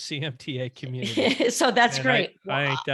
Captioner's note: laughs